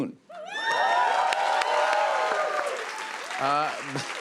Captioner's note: cheers and applause